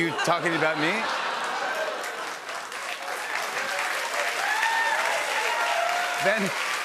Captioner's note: laughter, cheers, applause